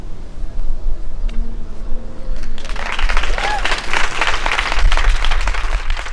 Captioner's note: applause